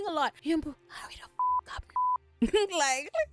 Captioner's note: beep; laughs